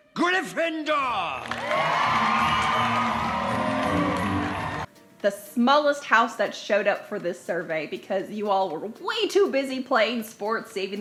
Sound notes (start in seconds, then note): 1.2 clapping and cheering